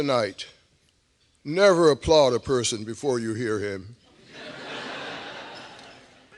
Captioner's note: laughter